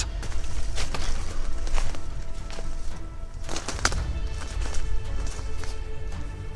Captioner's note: twigs snapping